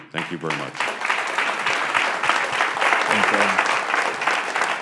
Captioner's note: applause